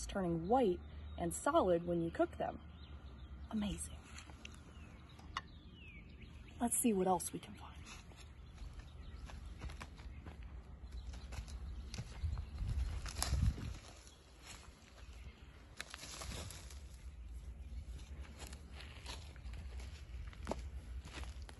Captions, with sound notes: turning white and solid when you cook them. Amazing. Let's see what else we can find. (leaves crunching) (bush leaves rustling) (leaves crunching)